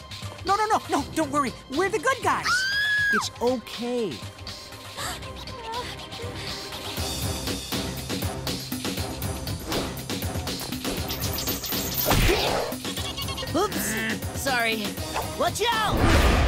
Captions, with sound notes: No, no, no, no, don't worry. We're the good guys. [screaming] It's okay. [grunting] Oops, sorry. Watch out!